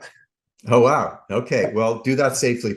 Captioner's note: laughs